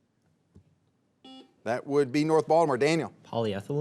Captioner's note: buzzer beeps